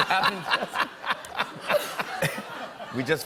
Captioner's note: laughter